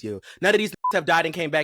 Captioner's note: beep